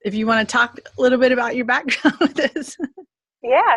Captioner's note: laughs